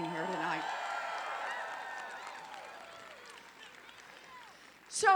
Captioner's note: applause